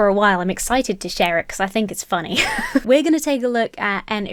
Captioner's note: laughs